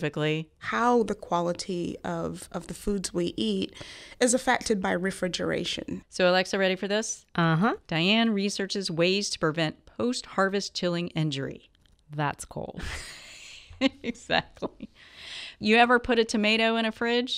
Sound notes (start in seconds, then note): 12.8 laughs